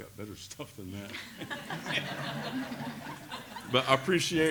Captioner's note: laughter